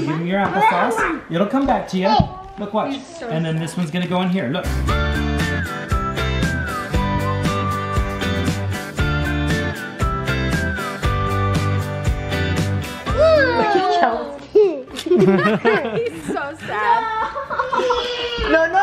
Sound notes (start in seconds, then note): 4.9 light music; 15.5 laughing